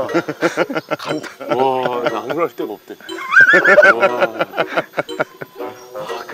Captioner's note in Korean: 웃음